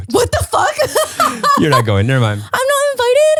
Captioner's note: laughs